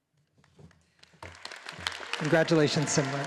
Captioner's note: all applauding